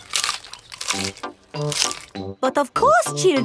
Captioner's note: munching